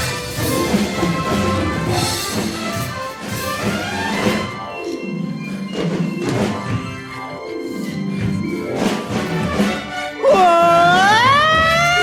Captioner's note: screaming